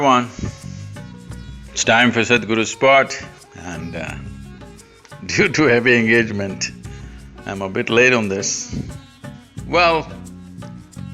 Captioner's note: laughs